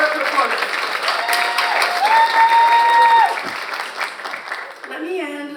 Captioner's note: audience cheers and applauds